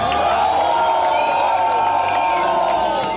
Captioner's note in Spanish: Aplausos